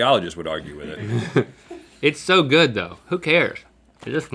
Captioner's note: chuckles